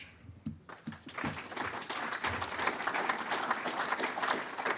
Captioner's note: audience applauding